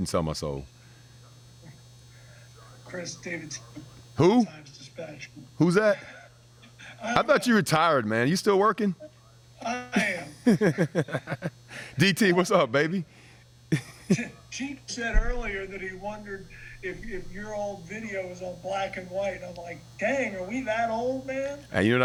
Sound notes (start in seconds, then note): 9.6 laughing; 13.7 laughing